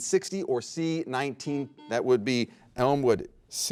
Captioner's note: buzzer rings